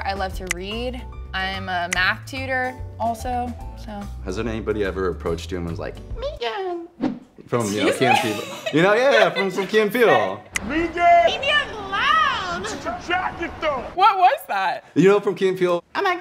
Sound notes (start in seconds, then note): 7.7 laughs